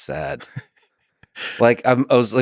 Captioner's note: Tim laughs